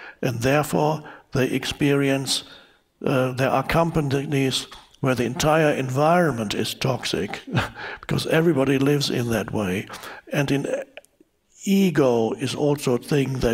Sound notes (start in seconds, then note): 7.2 chuckles